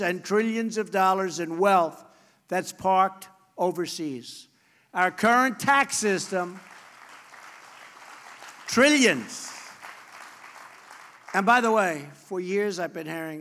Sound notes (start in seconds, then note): 8.2 applause